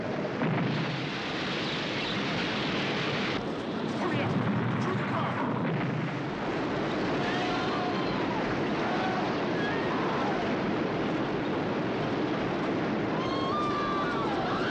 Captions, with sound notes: HURRY UP ! THROUGH THE CAR ! [ Screaming ] [ Screaming Continues ]